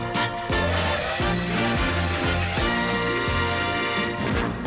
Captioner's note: choo choo